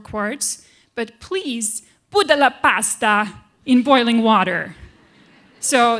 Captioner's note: italian accent